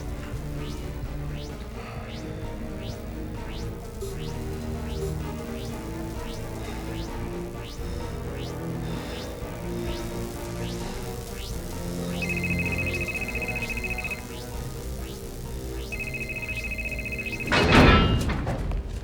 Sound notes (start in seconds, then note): 11.9 cell phone rings; 15.8 rings